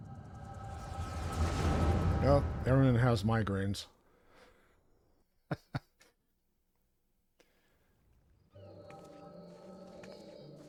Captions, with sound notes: Oh, Eren and the house migraines. (laughs) (soft music)